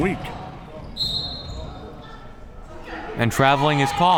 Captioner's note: whistle